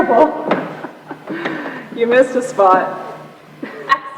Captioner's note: laughs